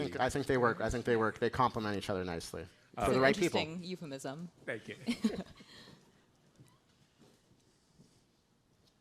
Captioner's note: laughter